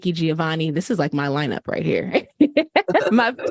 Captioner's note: laughter